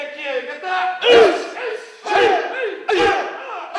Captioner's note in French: scream